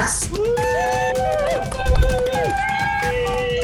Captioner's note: all cheering